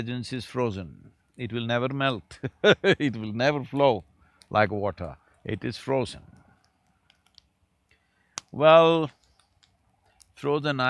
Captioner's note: laughs